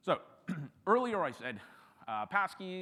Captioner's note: clears throat